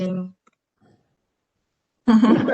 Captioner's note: laughter